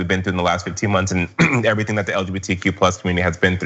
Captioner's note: cough